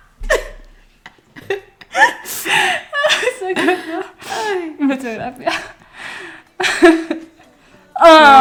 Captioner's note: laughs